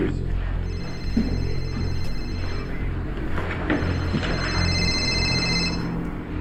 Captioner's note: cell phone rings